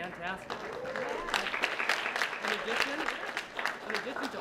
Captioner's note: applause